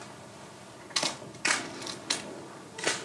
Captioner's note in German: Kameraklicken